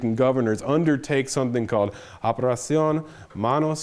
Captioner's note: speaks Spanish